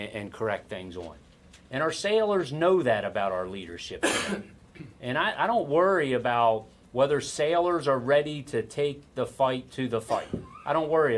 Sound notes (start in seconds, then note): 4.0 coughs